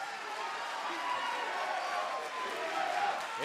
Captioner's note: cheers and applause; fans chanting